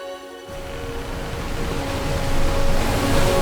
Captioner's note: water rushing